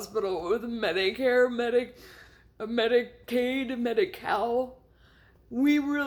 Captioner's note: breath